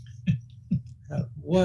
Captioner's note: laughing